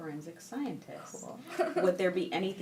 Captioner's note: laughing